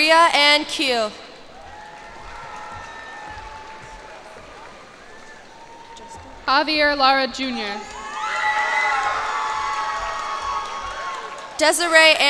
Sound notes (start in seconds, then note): 1.3 cheers and applause; 7.6 cheers and applause